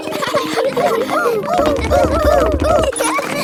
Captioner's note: laughs